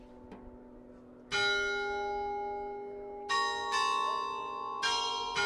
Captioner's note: bell ringing